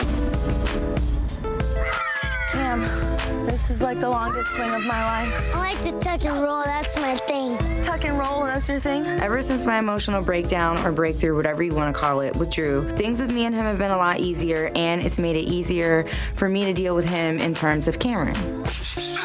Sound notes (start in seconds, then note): 0.2 upbeat music; 1.7 children shouting